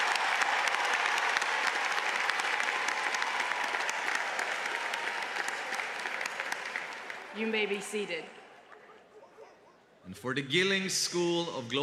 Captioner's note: cheers and applause